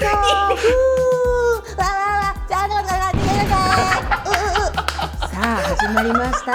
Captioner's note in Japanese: 爆発音